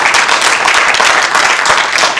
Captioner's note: applause